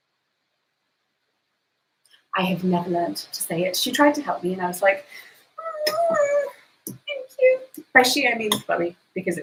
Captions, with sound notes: I have never learnt to say it, she tried to helm me and I was like (squeals) "Thank you." By "she" I mean Chloe